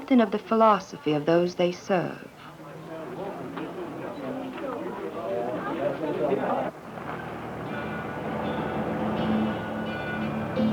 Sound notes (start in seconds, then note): 2.2 chatter outside of church; 6.6 vehicle moving down dirt road